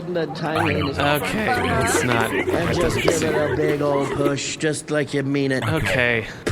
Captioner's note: the crew makes unhappy noises